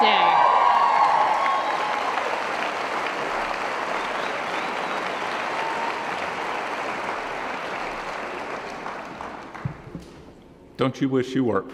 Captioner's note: cheering & Applause